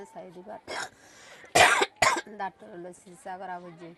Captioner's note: coughs